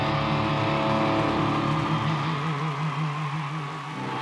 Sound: audience cheering

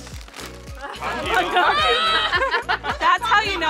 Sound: all exclaiming

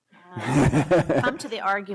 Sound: laughter

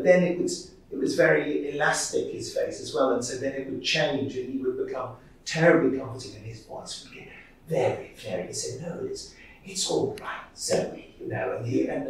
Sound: Second Doctor Voice

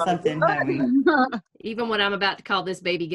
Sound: laughter

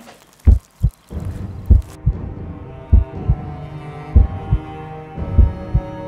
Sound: sound of heartbeat

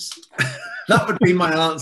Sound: laughs

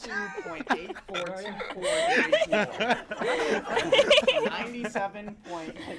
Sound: hosts laugh

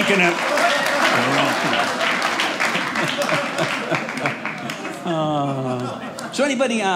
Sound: audience cheering

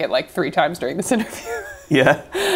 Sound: laughs

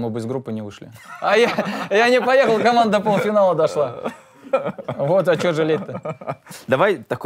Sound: both laugh

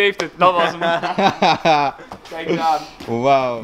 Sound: laughing

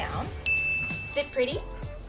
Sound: bell dings

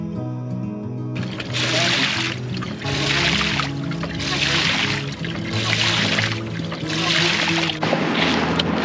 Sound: water pump

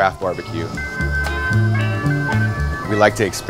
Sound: gas hissing

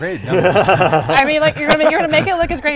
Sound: laughing

